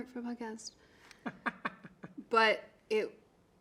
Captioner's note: man laughing